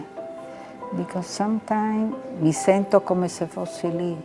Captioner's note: speaking in foreign language